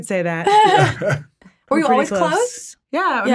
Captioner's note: chuckling